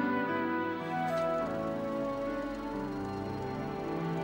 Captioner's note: film projector whirring; soft orchestral music